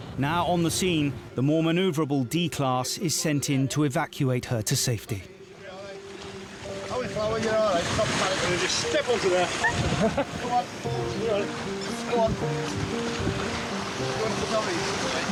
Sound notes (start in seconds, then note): 9.9 lifeguard chuckling; 12.6 somber music